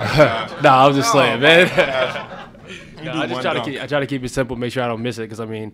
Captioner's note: laugh